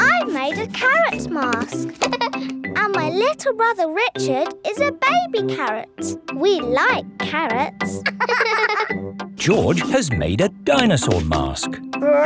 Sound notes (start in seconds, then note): 1.9 giggles; 8.0 both laughing